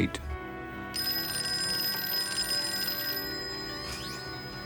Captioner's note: phone ringing